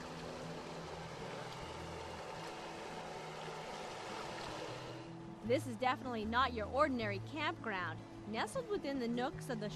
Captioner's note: motor boat sounds